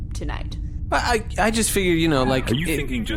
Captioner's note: stammering